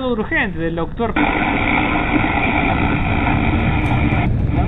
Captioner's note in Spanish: interferencia